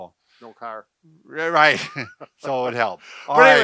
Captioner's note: laughs